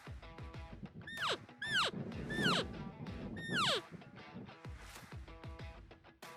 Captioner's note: elk call